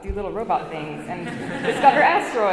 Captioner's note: audience laughs